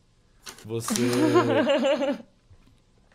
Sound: laugh

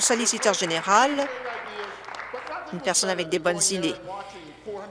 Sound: applause

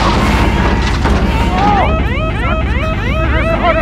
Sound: siren sounds

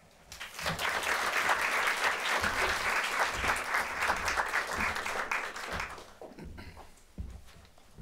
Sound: applause

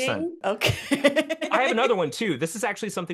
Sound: laughs

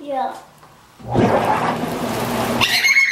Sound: jets roar; giggles

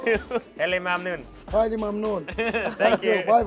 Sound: speaking foreign language

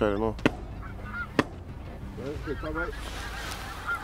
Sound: shots fired

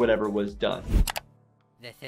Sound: background mouse clicking

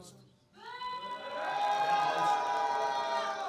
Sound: booing

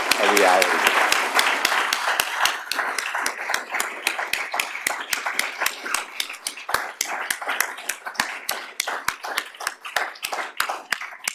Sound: applause

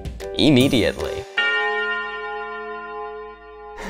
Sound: bell tolls

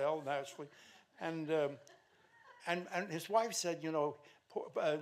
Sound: stammering

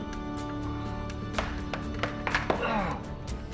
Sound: hand pounding; Dennis sighs

